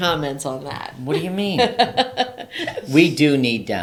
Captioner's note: laughing